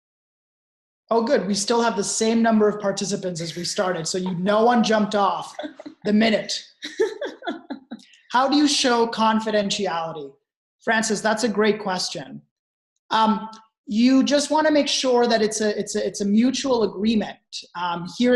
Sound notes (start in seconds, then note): 6.9 laughing